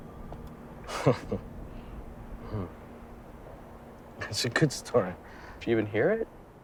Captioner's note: chuckles